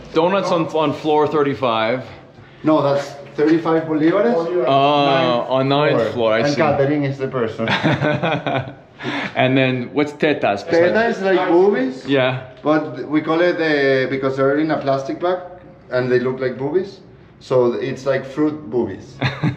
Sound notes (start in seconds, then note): 9.6 laughing